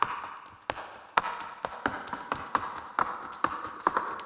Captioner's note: shoes clacking